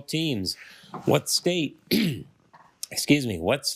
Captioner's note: clears his throat